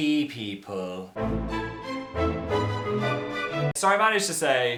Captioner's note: dramatic noise